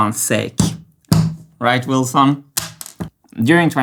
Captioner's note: bangs table